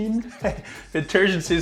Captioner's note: laughs